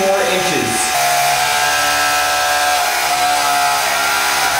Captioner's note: mechanical whirring